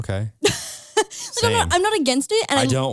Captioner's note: laughs